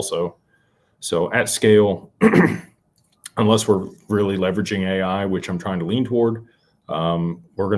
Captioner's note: clears throat